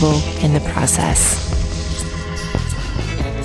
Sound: scissors snipping

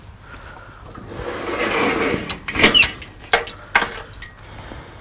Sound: metal clanking

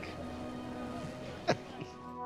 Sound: chuckles

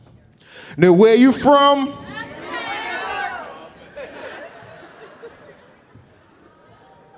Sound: audience shouting

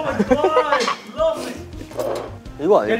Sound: sniffle

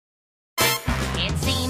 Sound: family guy trumpet noise

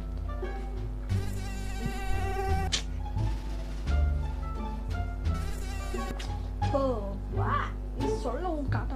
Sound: mosquitoes

